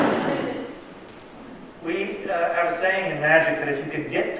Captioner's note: laughter